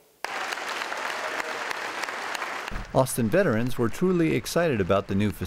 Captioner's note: applause